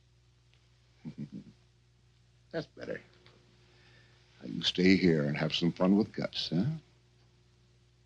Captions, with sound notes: (chuckles) That's better. Now you stay here and have some fun with Gus, huh?